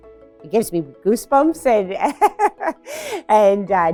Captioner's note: laughs